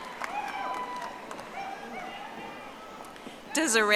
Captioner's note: audience applauding